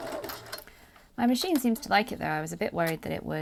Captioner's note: machine and clips rattling